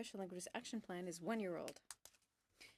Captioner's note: speaking in french